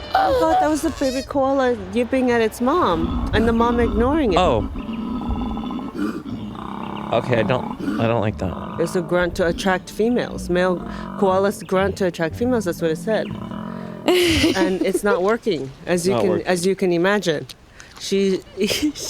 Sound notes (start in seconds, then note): 5.3 koala grunting